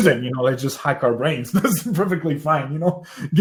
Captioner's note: laughs